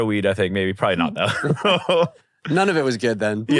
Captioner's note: laughs